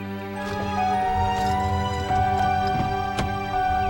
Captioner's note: car starts up